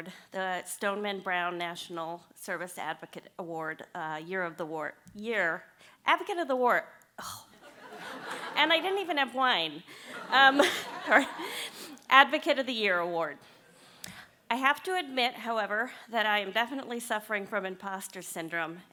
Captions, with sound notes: The Stoneman Brown National Service Advocate Award. Year of the Award… year… Advocate of the Award. Oh, and I didn’t even have wine. [LAUGHTER] Advocate of the Year Award. I have to admit, however, that I am definitely suffering from imposter syndrome.